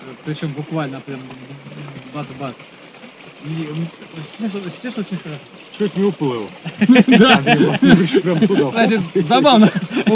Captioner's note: laugh